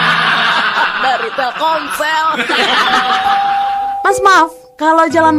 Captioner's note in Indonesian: tertawa